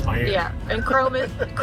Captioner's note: laughing